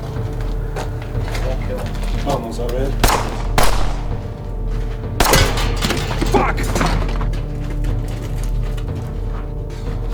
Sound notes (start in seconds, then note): 1.5 speaking Spanish; 3.0 gunshots boom; 7.0 suspenseful music